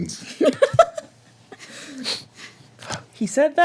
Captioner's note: laughter